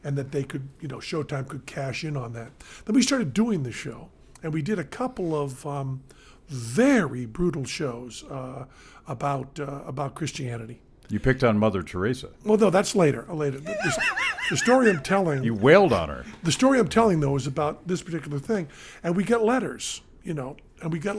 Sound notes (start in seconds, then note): 13.6 Glenn laughing